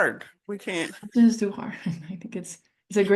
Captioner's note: chuckles